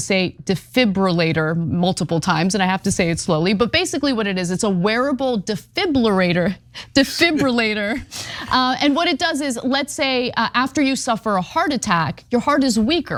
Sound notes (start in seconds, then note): 7.1 laugh